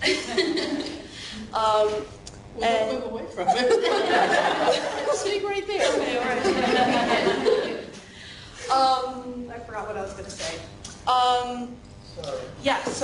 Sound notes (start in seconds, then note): 3.9 laughing